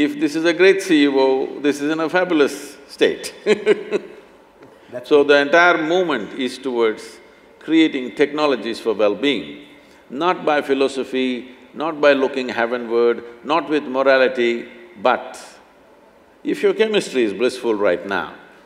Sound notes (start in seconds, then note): 3.4 laughs